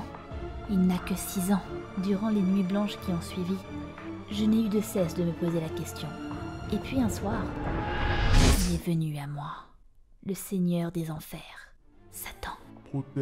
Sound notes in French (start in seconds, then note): none